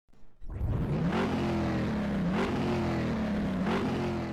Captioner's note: motor engine revving